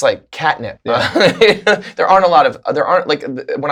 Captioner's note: laughter